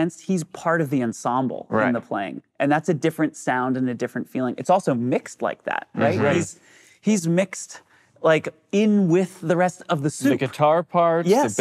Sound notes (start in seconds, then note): 6.0 vocalization of agreement